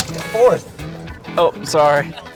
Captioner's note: voiceover